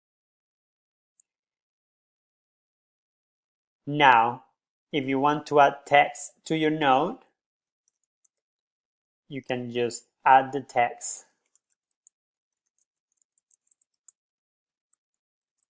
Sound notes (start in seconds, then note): 12.4 typing